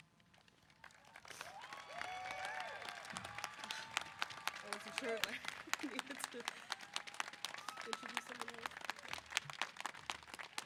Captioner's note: applause & Cheers